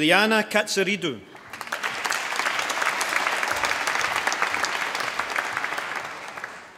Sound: applause

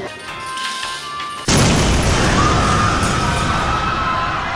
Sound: explosion

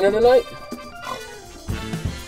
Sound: snort

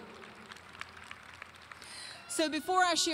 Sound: audience applauding

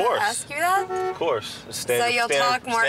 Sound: horn honking

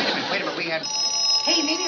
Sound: phone rings

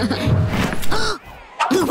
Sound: laughing; gasps

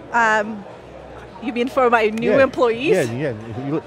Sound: claps hands

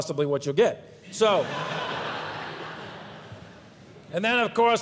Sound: audience laughs

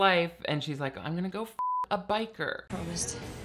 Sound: beep

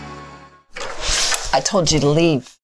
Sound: door clicks open

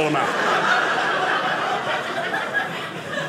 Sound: audience laughing

